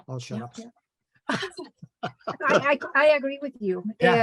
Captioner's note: laughter